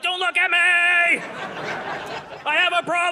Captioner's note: audience laughing